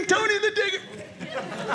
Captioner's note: audience laughing